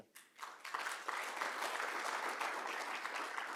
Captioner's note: applause